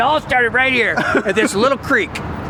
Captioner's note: laughing